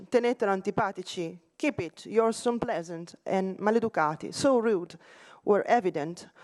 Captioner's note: italian; italian